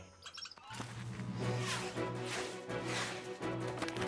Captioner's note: chittering